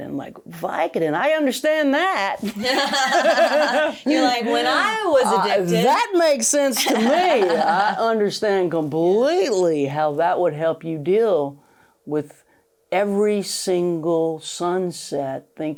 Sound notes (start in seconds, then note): 2.5 both laughing